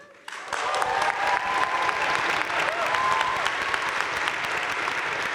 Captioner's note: audience cheering and applauding